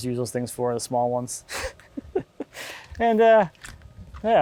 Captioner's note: laughing